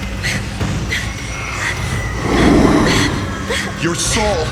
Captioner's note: person panting